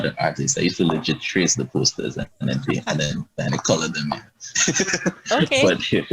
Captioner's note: laughs